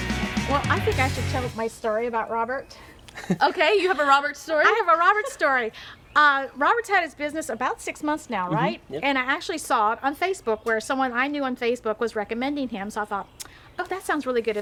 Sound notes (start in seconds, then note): 0.0 upbeat rock music; 3.0 laughs